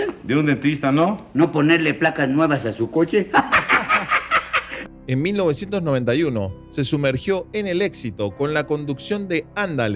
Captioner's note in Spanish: risas